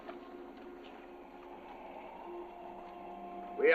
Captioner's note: wind howling